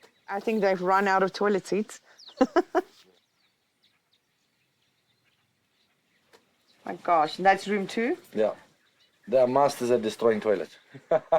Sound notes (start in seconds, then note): 2.3 laughs; 10.9 laughs